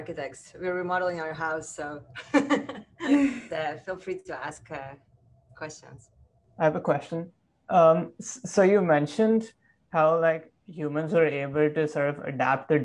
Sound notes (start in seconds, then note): 2.2 laughs